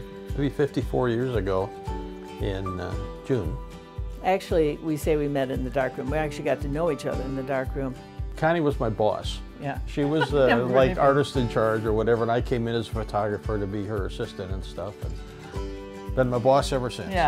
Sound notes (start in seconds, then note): 0.0 gentle music; 10.0 laughs